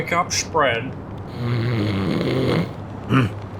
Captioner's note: snoring